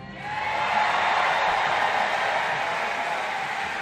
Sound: applause

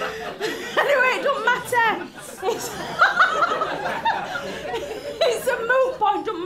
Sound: laughter; hoots

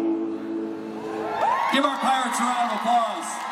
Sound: cheering

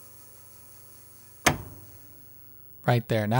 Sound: that click

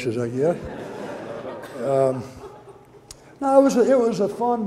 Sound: audience laughter

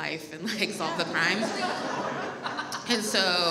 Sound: audience laughs

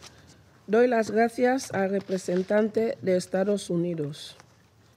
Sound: in Spanish

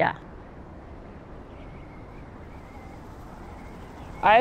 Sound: wind howling

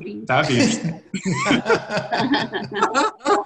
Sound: laughs

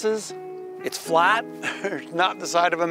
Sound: laughs

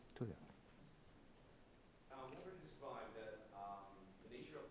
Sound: faintly speaking

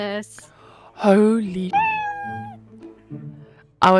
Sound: meow

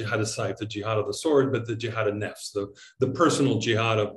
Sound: speaking in Arabic; speaking in Arabic

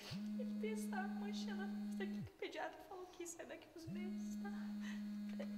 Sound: phone rings

